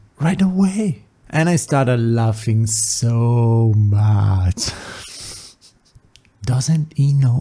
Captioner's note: soft laughs